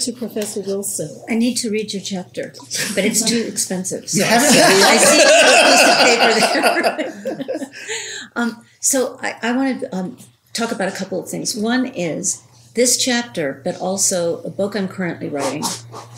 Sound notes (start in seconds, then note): 4.2 laughter